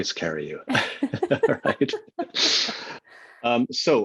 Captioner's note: laughs